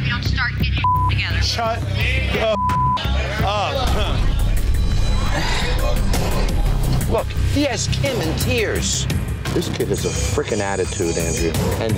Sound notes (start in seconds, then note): 0.8 beep; 4.3 beep; 5.6 sighs